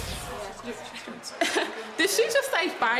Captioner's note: chuckles